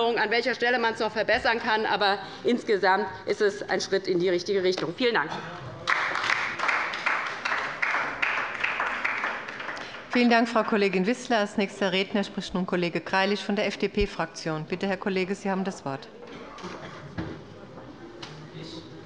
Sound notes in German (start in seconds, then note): 5.8 Beifall bei der LINKEN